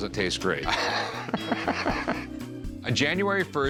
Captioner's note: laughs